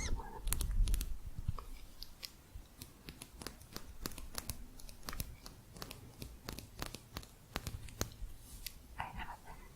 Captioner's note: quick tapping